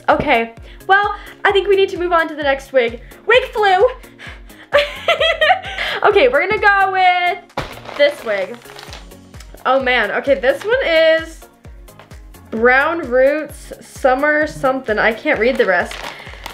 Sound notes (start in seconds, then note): 4.5 laughing